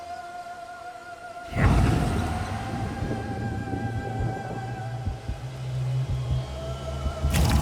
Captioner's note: siphoning resurrection noises